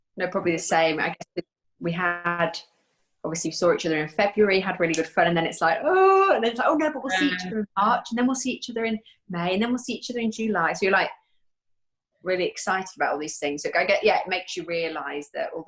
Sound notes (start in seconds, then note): 7.1 moaning